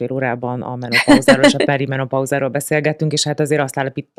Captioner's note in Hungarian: nevetés